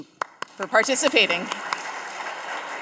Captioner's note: audience applauding